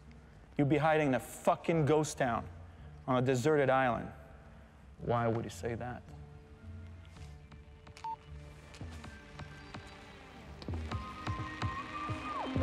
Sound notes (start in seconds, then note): 8.0 cellphone beeps